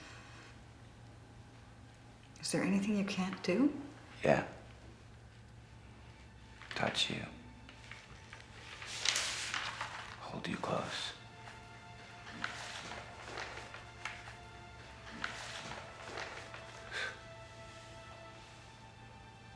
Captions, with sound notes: Is there anything you can't do? - Yeah. Touch you. Hold you close. (paper rustling) (sighing)